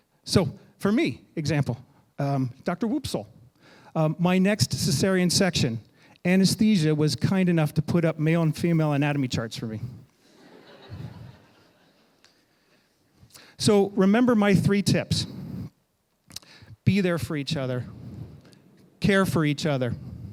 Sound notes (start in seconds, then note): 10.2 audience laughing